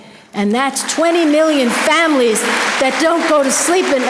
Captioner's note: audience applause